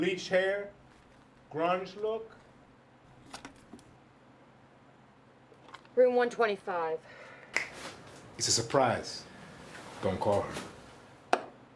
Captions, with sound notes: - Bleached hair, grunge look. (money thuds) - Room 125. (Vargas snaps fingers) - It's a surprise. Don't call her.